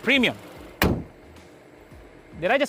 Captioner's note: hood closes